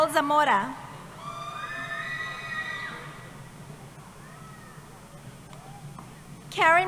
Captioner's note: cheering